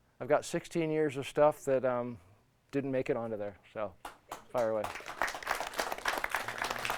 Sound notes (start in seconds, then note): 4.1 students applauding